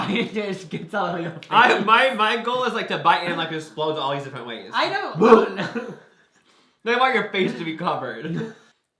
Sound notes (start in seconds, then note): 5.7 both laugh